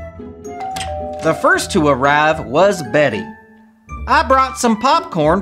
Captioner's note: doorbell rings